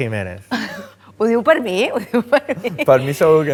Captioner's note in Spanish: irónicamente